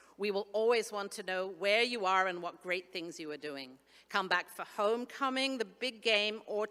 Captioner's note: none